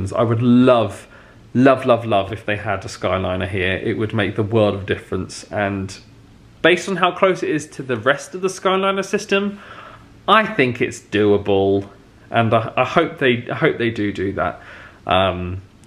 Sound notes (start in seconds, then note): none